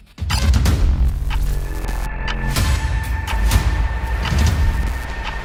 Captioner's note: ticking